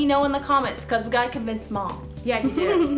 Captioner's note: giggles